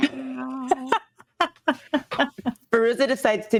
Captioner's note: cast members laughing